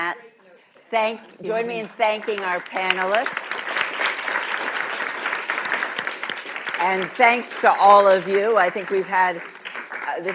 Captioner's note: applause